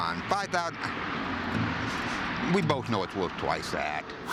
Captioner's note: scoffs